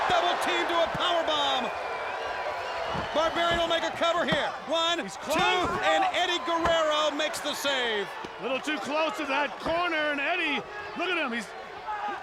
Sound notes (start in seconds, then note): 1.8 audience cheering